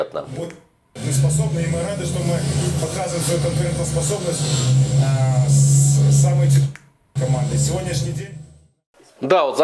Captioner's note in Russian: Звук телевизора